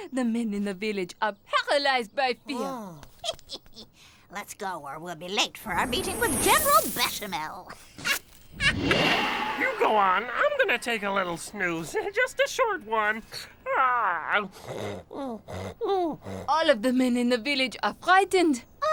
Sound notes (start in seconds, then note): 8.0 witch cackles; 13.7 owl snoring